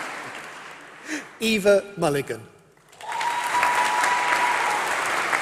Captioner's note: applause